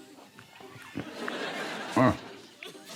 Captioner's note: laughter